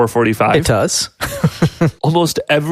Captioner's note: laughs